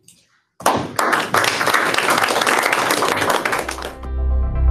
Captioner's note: applause